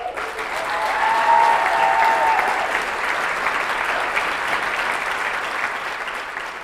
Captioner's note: applause